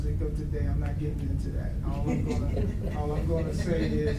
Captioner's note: audience laughs